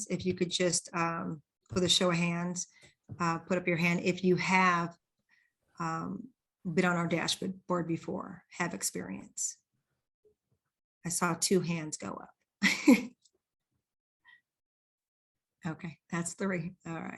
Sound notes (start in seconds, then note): 12.7 laughs